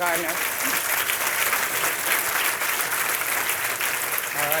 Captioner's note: audience applauding